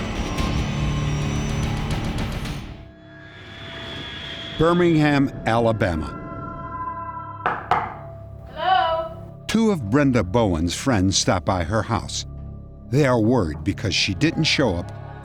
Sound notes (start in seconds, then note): 7.4 knock on door